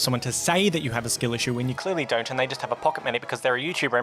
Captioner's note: rambling and getting progressively faster